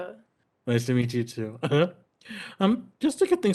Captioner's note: giggles